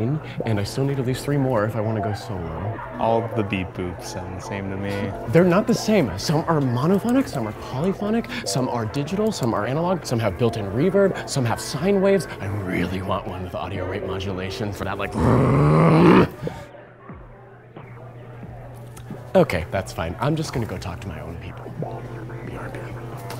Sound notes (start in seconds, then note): 15.1 vroom noise